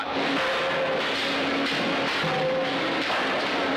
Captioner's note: metal clanking